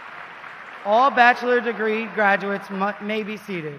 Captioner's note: applause